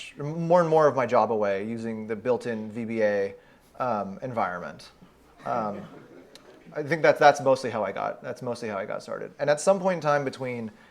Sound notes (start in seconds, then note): 5.3 audience chuckles